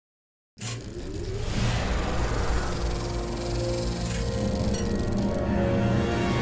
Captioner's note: projector sound